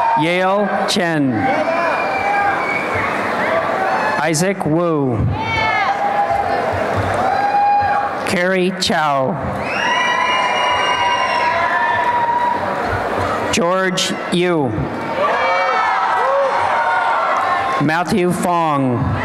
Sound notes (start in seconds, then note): 1.5 applause and cheering; 5.3 applause and cheering; 9.7 applause and cheering; 15.1 applause and cheering